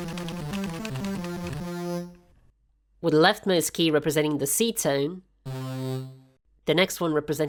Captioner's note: keyboard mashing